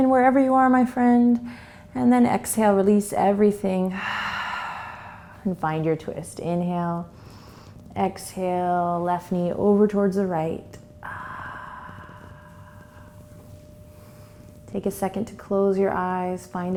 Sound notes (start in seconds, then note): 4.0 exhales; 7.3 inhales; 11.0 exhales